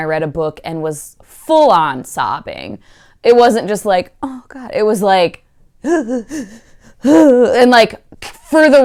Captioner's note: hyperventilating crying noises